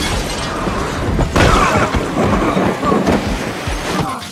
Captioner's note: both grunt; both groaning